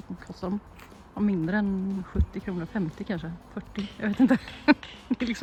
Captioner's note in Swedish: skratt